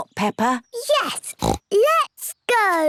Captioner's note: snorts